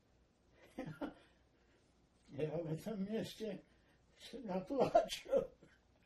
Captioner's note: laughing